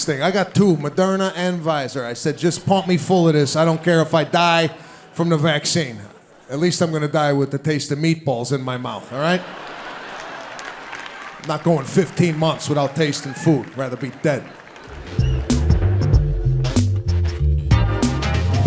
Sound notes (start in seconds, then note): 9.4 audience clapping; 14.8 upbeat music